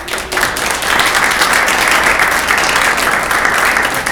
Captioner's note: clapping